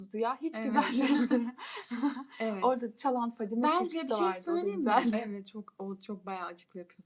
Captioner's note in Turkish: kahkaha